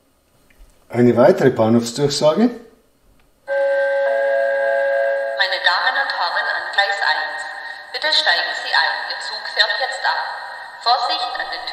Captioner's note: gong